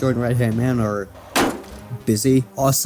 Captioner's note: crash